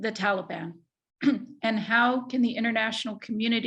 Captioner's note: clears throat